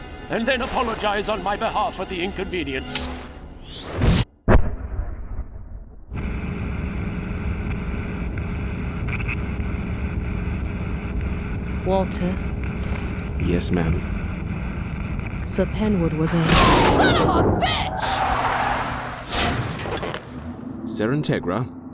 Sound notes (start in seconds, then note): 2.8 click; 4.4 boom; 4.4 poof; 6.1 radio static; 16.5 slam; 18.0 tires screeching